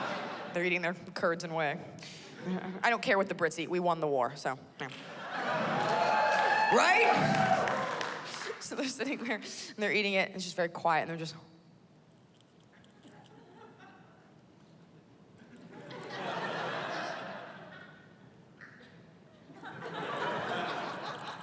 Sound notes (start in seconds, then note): 5.2 cheering; 15.2 laughter